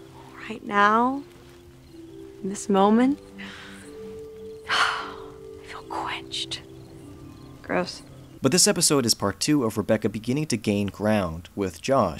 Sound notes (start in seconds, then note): 3.3 exhales